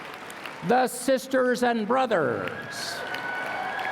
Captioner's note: applause